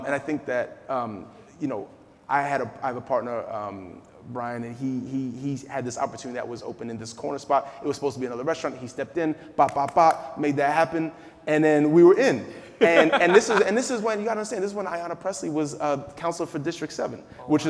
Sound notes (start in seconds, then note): 12.7 laughing